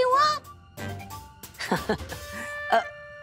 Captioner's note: laughs